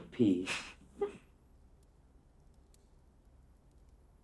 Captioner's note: Catherine giggling